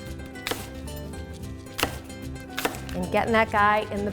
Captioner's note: crunching